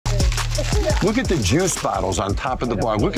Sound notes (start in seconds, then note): 0.0 ice rattling